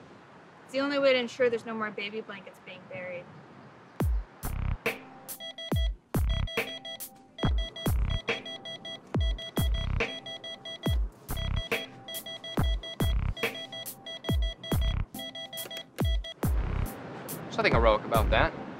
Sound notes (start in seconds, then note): 5.3 heart monitor beeps frantically